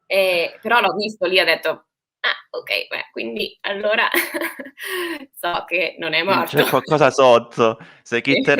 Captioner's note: laughs